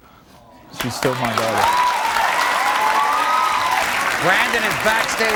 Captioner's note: audience claps